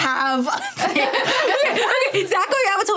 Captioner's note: laughing